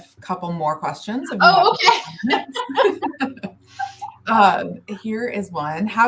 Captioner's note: laughter